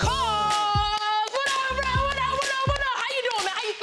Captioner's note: Iyana claps